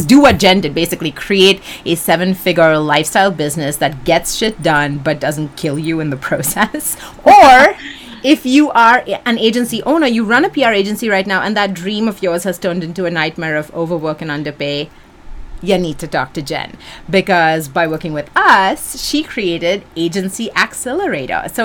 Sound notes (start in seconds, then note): 6.8 chuckles